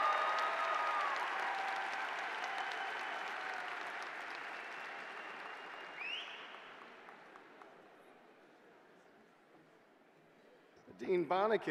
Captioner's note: cheers and applause